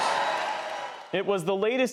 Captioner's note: cheering and applause